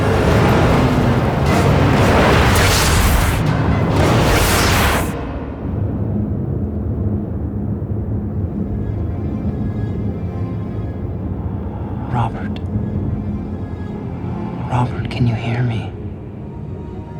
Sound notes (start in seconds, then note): 0.3 suspenseful music; 4.0 whooshing; 8.8 ominous music